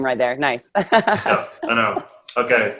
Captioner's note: laughing